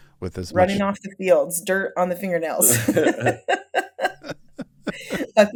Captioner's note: laughs